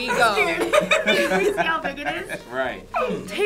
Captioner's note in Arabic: كلاهما يضحك